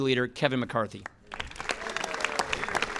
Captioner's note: applause